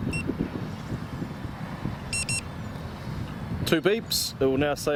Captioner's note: controller beeping